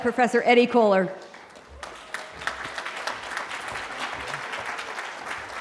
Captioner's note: applause